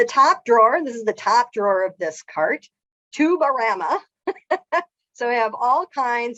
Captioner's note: laughs